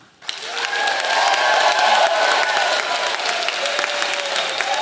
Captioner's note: audience cheering